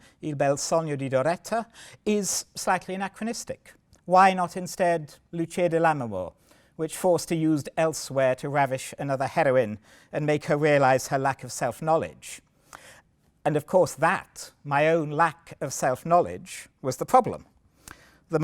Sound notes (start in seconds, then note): 5.4 italian